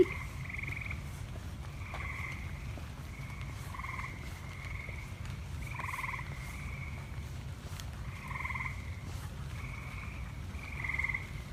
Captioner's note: frog sounds continue and then fade out